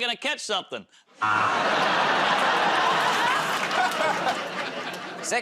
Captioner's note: laughter, buzzer